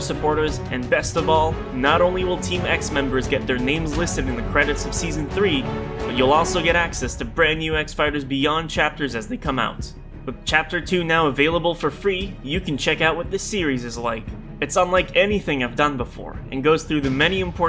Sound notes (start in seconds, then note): none